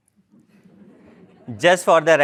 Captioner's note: laugh